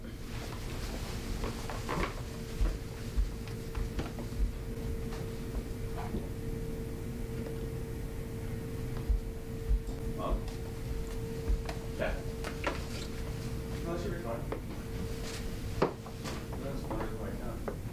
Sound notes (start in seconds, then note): 0.2 footsteps; 10.2 footsteps; 12.5 door squeaking; 14.4 footsteps